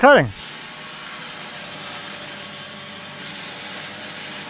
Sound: saw whirs

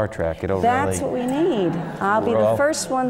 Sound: laugh

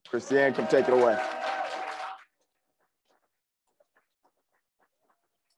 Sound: crowd applauds and cheers

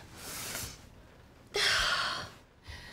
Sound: sigh

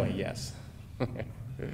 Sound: chuckling

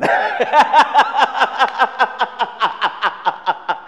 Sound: laughing

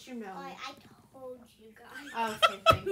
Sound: laughter

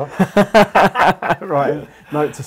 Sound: laughing

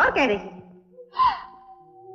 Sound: gasps

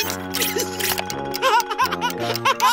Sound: laughing

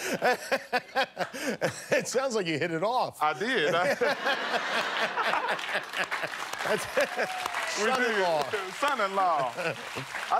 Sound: laughter

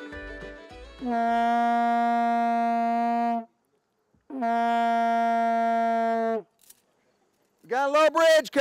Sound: horn blows twice

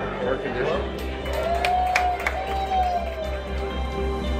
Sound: cheering

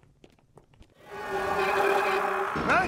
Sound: screaming

